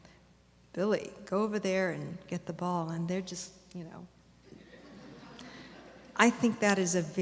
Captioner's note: audience laughter